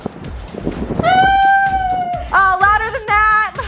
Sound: howling

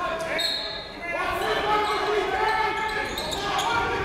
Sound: whistle

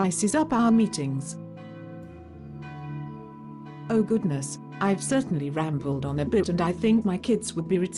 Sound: church bells ring in distance

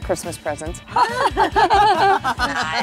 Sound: laughter

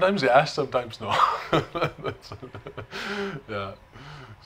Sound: chuckles

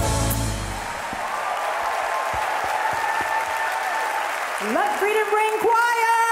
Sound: audience applauding

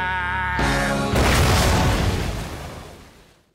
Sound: explosion

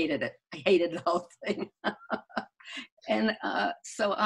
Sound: laughing

